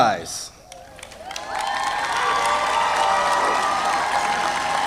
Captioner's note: audience applauding